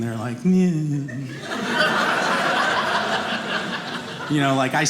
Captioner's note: audience laughing